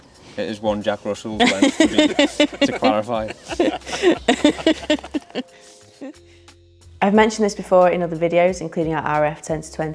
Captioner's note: laugh